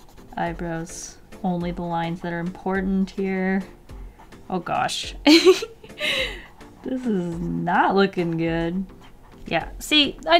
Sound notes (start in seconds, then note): 5.2 giggle